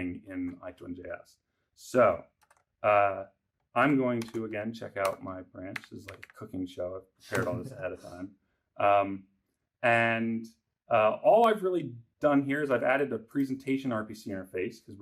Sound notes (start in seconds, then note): 7.3 laughs